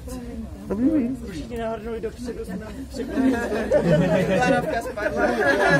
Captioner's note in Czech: Smích